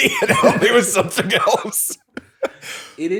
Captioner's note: laughter